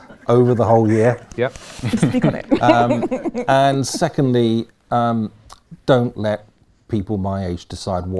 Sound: laughter

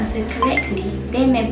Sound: correct beep sound

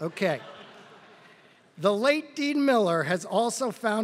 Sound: laugh

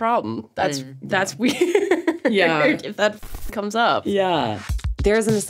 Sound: laughs

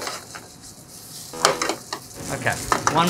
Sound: buzzer beeping

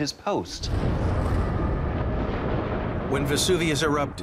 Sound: eruption rumbling

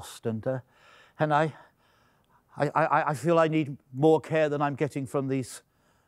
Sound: stammering

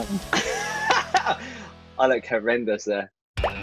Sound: laughing

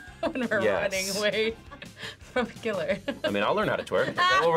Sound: laughs

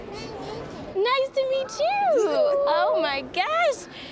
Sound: laughs

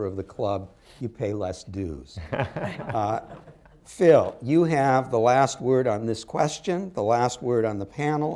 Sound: laughter

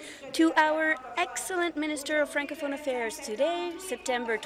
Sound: speaking in French

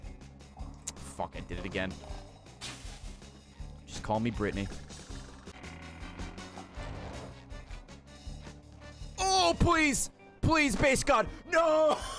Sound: laughs

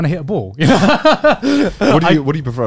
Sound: everyone laughs

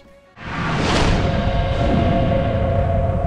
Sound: voom-voom

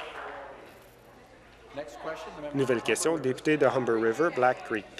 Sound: applause

